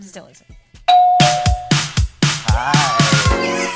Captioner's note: door bell; upbeat music